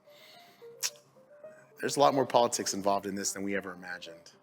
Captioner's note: tsk